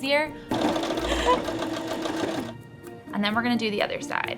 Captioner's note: sewing machine buzzing